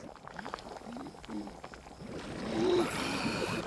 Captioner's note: water boiling